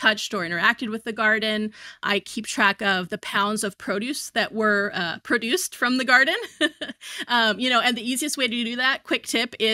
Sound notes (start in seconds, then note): 6.4 chuckles